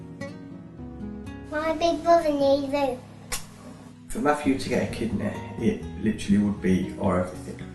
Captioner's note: mwah